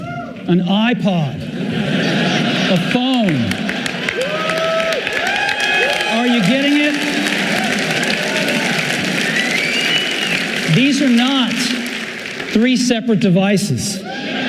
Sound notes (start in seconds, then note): 1.4 audience laughing; 4.1 audience cheering